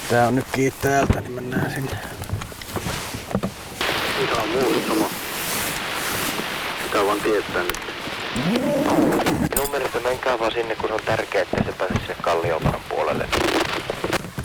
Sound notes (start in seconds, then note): 7.2 radio message